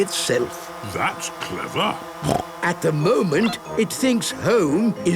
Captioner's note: snorting